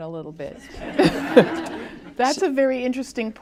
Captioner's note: laughter